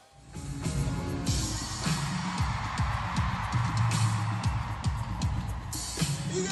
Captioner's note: upbeat music; audience cheering